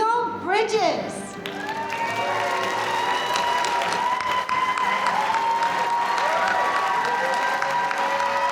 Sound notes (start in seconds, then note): 1.4 audience applauding; 5.4 audience cheering